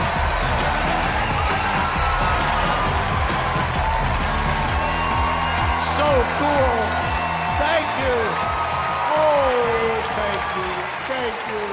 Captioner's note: cheers and applause